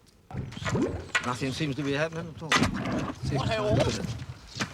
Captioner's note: gurgling